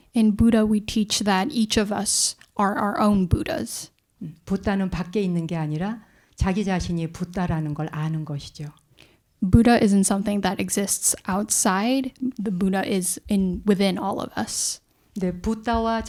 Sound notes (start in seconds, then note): 5.1 speaking in Korean; 15.8 speaking in Korean